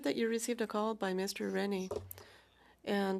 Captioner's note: speaking French